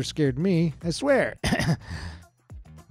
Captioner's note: ahem